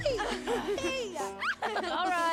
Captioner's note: laughing